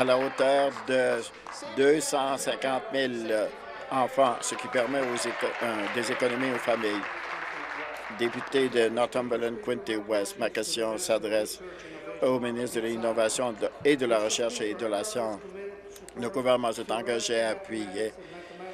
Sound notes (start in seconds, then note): 1.0 applause